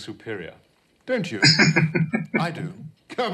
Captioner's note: chuckling